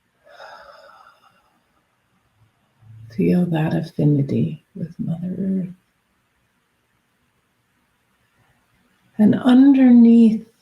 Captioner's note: exhales